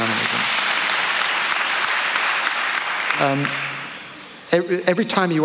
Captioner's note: applause